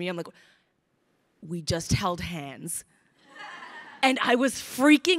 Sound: crowd laughing

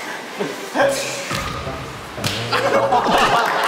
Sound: slap

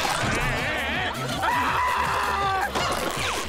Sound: screaming

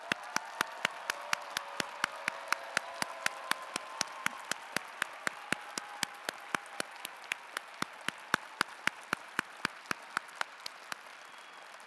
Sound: applause and Cheers

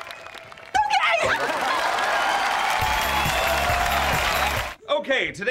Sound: cheering, applauding

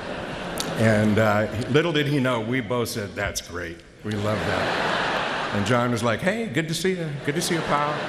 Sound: laughter

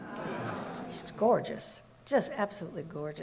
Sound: audience murmurs

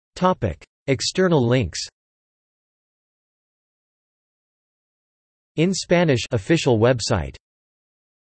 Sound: in Spanish

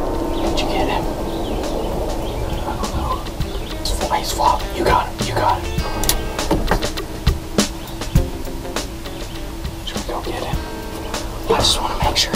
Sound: whispering

